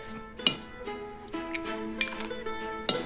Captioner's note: eggs crack